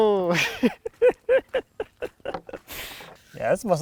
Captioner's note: laughs